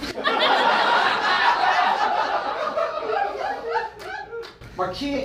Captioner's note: audience laughing